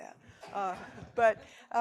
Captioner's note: audience laughing